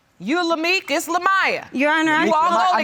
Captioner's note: none